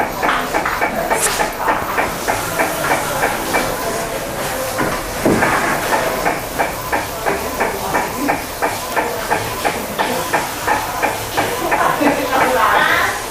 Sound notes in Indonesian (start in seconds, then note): 0.0 suara mesin printer